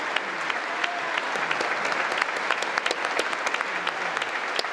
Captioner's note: congress applauding